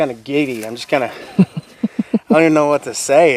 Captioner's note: chuckles